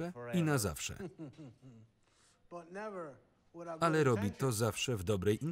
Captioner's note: chuckles